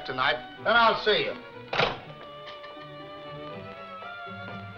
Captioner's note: phone hanging up